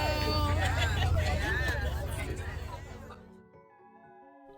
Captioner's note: people chattering